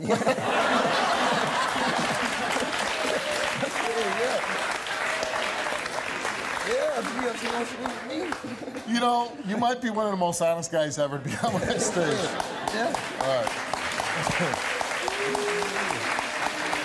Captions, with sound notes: (audience laughs and claps) Yeah, if she want to sleep with me. - You know, you might be one of the most honest guys that's ever come on that stage. (audience laughs and claps)